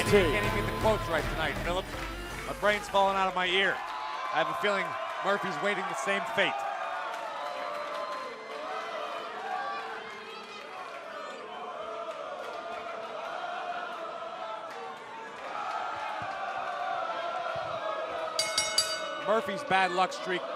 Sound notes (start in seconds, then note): 10.9 fans chanting; 18.4 bell ringing